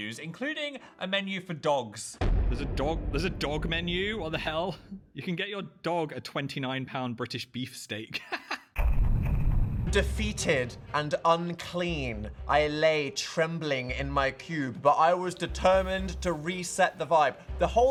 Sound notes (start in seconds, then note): 2.2 drums rumbling; 8.1 laughs; 8.9 drums rumbling